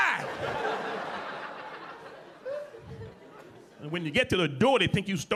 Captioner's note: audience laughing